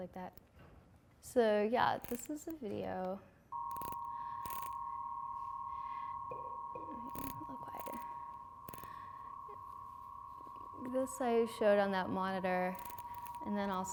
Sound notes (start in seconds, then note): 3.6 electronic humming; 6.3 tapping